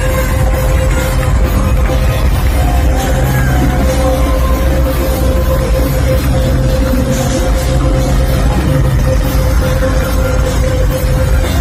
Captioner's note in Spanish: ovación